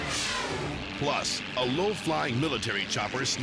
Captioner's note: biker screaming; helicopters buzzing; dramatic air whoosh